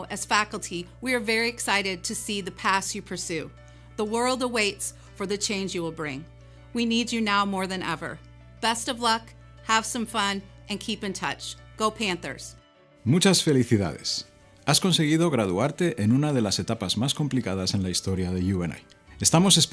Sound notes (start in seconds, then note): 16.8 speaking Spanish